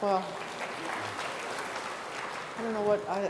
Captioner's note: applause